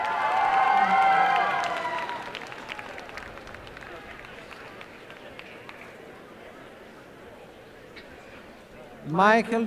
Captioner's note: cheering and applause